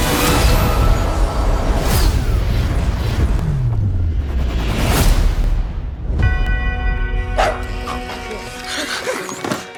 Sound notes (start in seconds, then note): 0.1 whooshing; 7.3 barks; 8.6 gasps